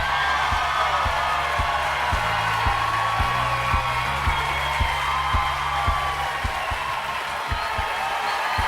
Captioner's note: crowd erupts